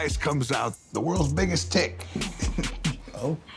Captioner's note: laughter